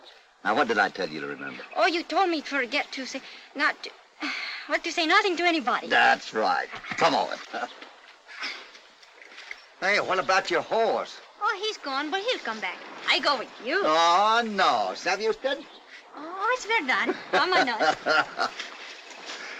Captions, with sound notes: - What did I tell you to remember? - You told me forget to say... - Not to say nothing to anybody. - That's right, come on. - Hey, what about your horse? - He's gone, but he'll come back. - I go with you. - Oh no, [ IN SPANISH ] you know? - [ IN SPANISH ] Oh, it's true, let's go. [ HOPPY LAUGHS ]